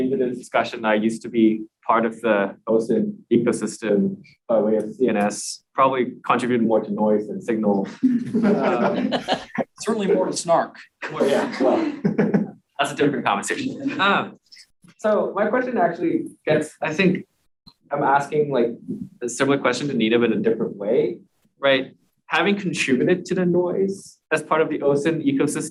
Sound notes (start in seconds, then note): 7.8 laughing